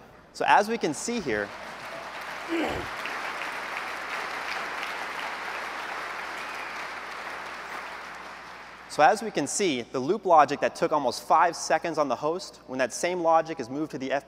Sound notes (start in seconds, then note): 1.1 applause